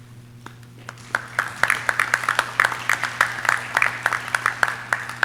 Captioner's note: audience clapping